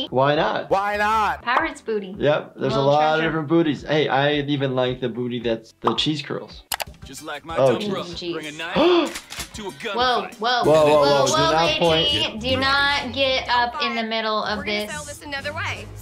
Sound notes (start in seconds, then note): 8.7 gasps